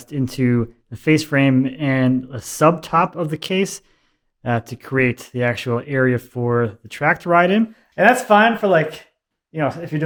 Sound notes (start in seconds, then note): none